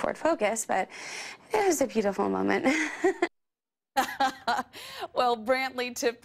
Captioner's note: laughs